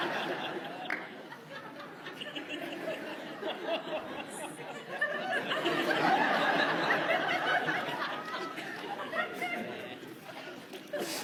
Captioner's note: laughter